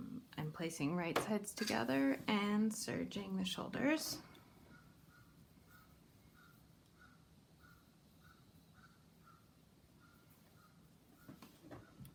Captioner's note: crows in background